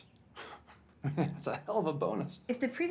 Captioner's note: laughs